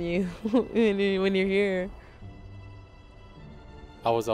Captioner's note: chuckles